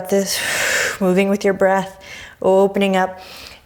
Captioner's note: deep breaths